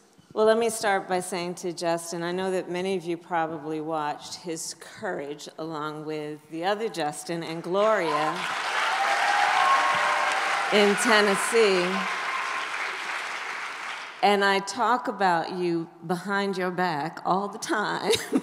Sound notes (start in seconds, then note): 7.8 applause